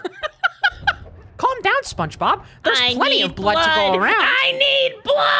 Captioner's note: Spongebob voice; laughing; Mickey Mouse voice which apparently is supposed to be Jimmy; Spongebob voice